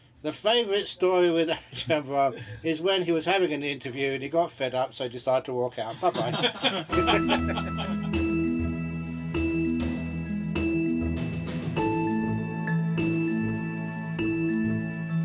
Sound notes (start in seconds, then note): 7.6 laughs